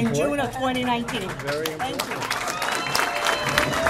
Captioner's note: applause